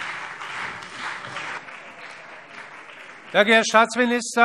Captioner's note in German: Beifall CDU und BÜNDNIS 90/DIE GRÜNEN